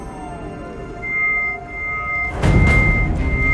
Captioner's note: high-pitched humming